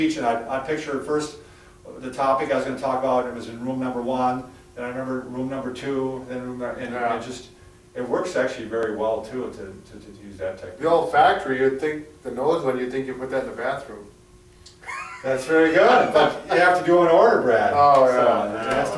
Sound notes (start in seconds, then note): 14.8 laughing